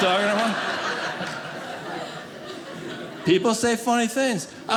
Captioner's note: audience laughing